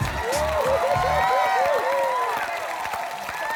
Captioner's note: applause